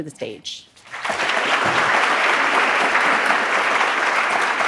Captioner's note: audience applauding